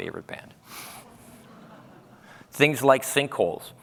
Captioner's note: laughter